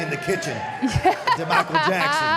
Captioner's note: Michelle laughs